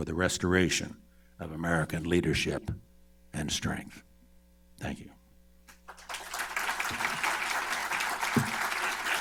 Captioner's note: applause